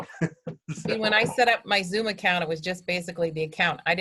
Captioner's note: chuckles